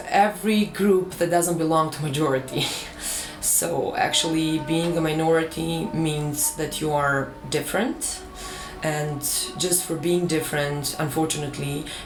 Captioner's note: indistinct chatter